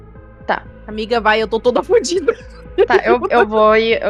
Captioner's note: laughter